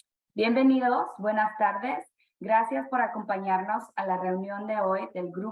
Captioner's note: speaking spanish